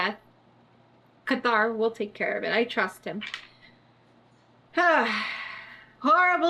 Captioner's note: sighs